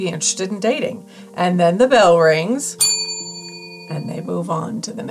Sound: bell dings

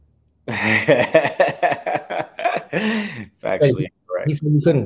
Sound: laughs

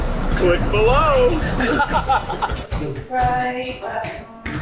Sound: laughing

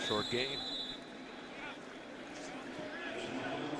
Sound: whistle

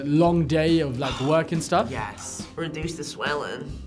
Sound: sighs

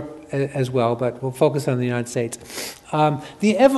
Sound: sniffs

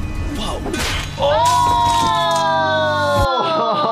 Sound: both gasping; both exclaiming

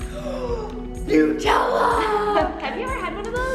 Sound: laughing

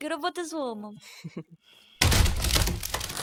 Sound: shy laughter; coffin opening

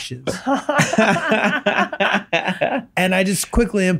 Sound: Megan and Glenn laughing

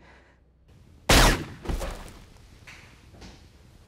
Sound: silenced bang

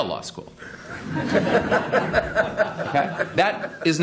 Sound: laughter

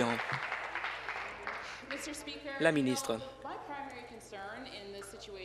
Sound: applause

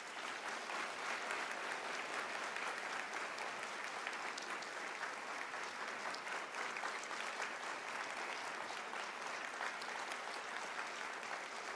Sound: applause

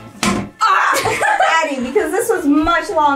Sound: curtain rod thuds; hollers

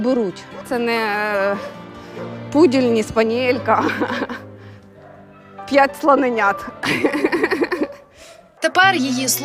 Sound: laughs

